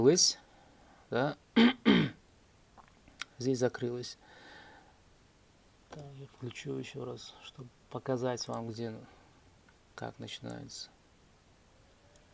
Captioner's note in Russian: откашливается